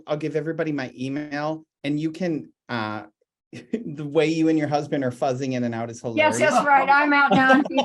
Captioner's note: chuckles